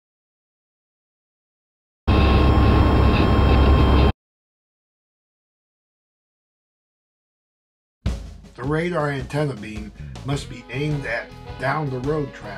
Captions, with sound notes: [ 59 MPH Target Tone ] The radar antenna beam must be aimed at "Down-the-Road" traffic.